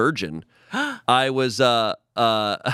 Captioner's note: gasps